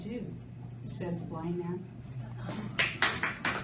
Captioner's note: applause